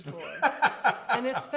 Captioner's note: laughs